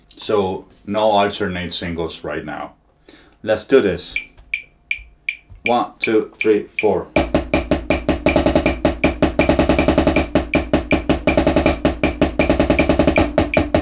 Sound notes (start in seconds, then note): 4.4 metronome ticking; 7.0 drum beating; 7.0 metronome continues ticking